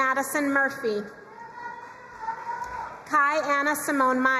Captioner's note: crowd cheering and applauding